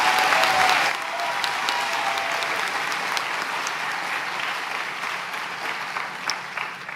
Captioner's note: applause; cheering